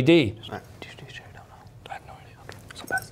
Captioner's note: whispering